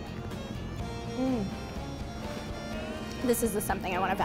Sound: grunts with pleasure

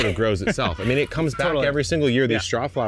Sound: laughing

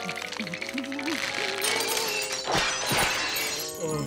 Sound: shattering

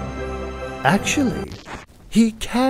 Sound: record scratch

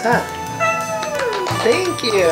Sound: claps

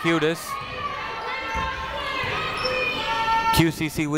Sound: people shouting in the crowd

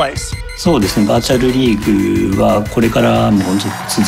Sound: speaking Japanese

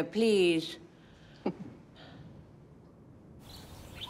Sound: chuckles

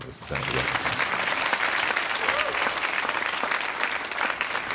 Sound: audience applauding

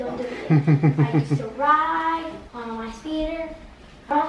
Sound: laughing

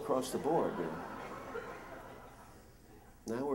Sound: laughter

